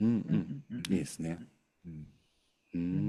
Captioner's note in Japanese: 咳払い